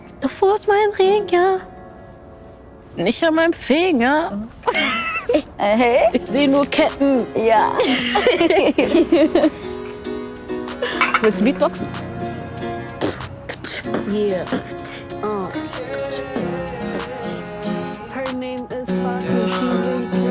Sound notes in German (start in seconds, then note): 12.9 Fatou beginnt mit Beatboxen; 18.9 Entspannte Musik